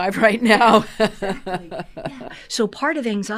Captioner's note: laughter